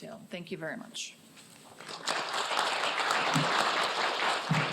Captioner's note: applause